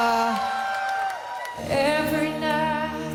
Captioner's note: cheers and Applause